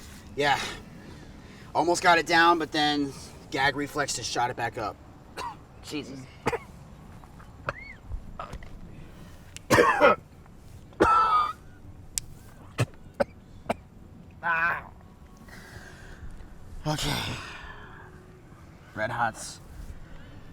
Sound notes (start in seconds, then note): 5.3 coughs; 6.9 coughs; 12.7 spits; 13.1 coughs